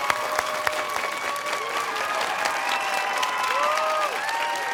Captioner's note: cheers and applause